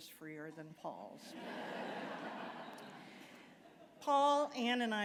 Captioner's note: laughter